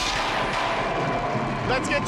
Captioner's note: electricity crackles, thunder rumbles